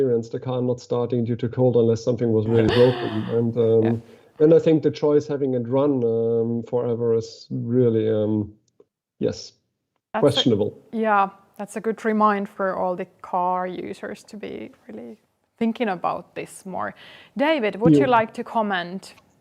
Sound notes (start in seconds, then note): 2.4 laughs